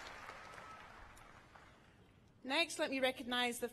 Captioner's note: cheers and applause